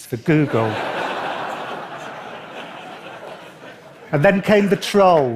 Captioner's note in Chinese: 笑聲